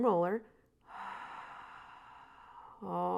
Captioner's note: exhales